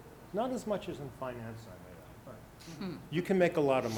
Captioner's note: speaking faintly